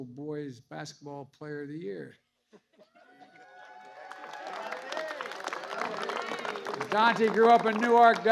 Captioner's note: applause